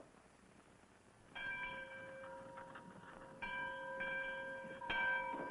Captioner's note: church bell ringing